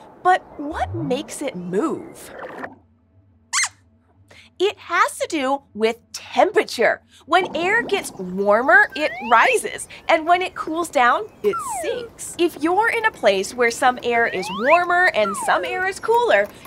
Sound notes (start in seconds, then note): 4.5 squeaks squeaks